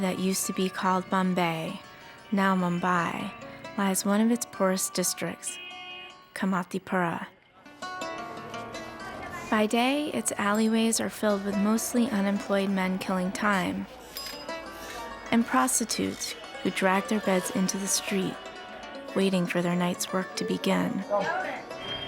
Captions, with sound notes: that used to be called Bombay, now Mumbai, lies one of its poorest districts, Kamathipura. By day, its alleyways are filled with mostly unemployed men killing time... (bell dings) ...and prostitutes who drag their beds into the street waiting for their night's work to begin.